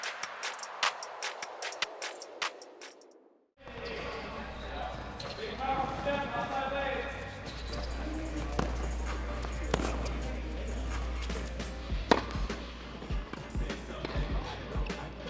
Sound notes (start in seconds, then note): 3.5 background chatter; 7.2 ball thuds; 7.9 upbeat music